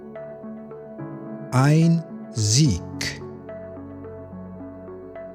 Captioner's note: german